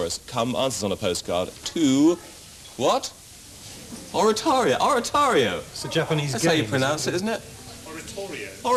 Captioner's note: shout from offscreen